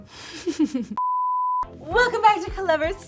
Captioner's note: giggles; beep